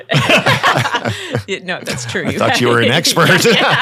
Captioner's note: panel laughing